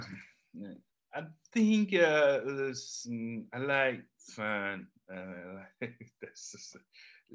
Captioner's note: laughs